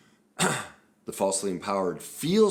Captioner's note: clears throat